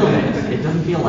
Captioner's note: laughing